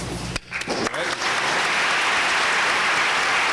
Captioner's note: applause